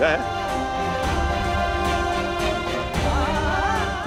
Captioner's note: emotional vocalising